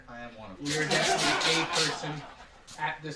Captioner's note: laughter